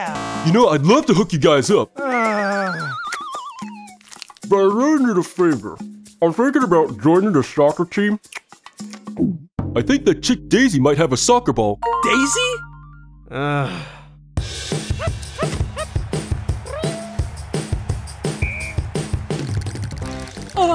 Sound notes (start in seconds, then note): 0.1 error sounds; 1.9 groaning; 3.7 chewing; 4.1 mouth full; 8.6 smacks lips and swallows; 13.3 sighs; 19.3 teeth chattering